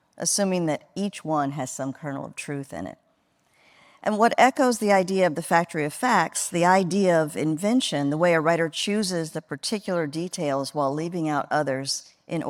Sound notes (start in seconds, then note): none